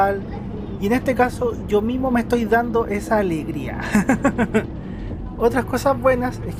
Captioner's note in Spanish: risas